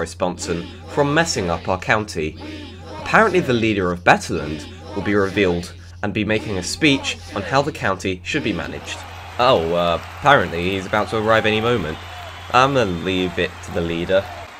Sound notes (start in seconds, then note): 8.3 crowd